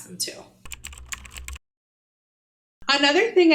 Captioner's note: keyboard clicking